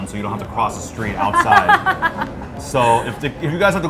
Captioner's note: laughs